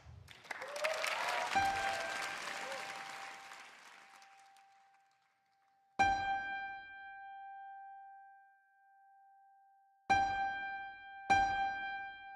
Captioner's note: cheers and applause